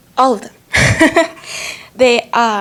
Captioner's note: laughing